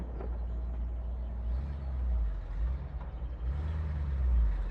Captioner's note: engine murmuring